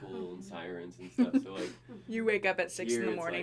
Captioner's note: chuckling